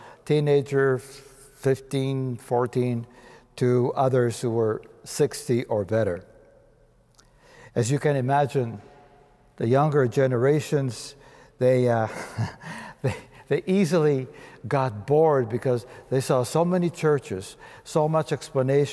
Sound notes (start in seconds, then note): 12.0 chuckling